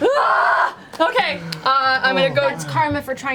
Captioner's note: yells